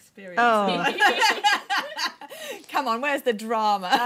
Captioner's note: laughter